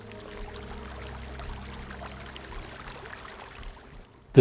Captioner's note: stream flowing